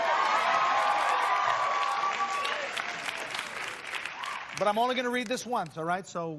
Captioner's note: cheers and applause